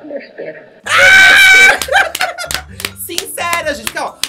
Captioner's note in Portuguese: grita e ri